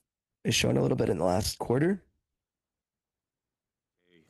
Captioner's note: speaking French